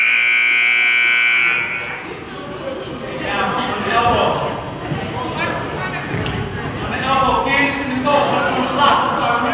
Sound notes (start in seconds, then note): 0.0 buzzer goes off